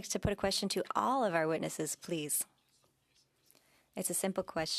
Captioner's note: speaking French